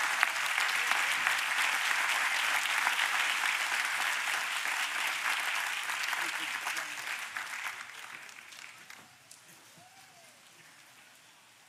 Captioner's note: applause